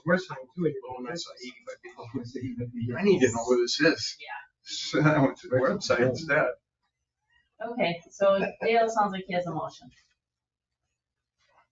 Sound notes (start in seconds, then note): 4.6 people chattering